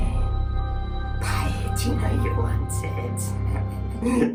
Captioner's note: laughs